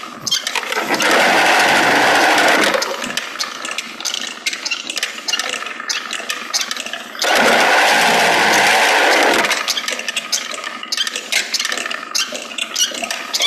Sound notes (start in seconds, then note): 7.0 spinning wheel continues trundling and creaking